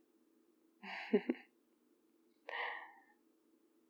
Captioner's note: laughs